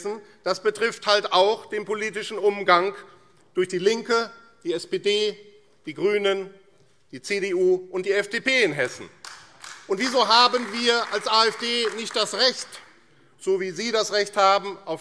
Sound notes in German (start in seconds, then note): 9.2 Beifall AfD